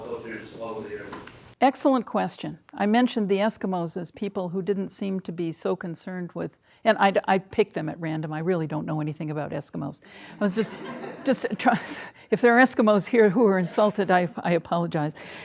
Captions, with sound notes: Excellent question. I mentioned the Eskimos as people who didn't seem to be so concerned with, and I picked them at random, I really don't know anything about Eskimos. (audience laughing) If there are Eskimos here who are insulted, I apologize.